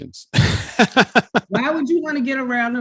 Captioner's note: laughs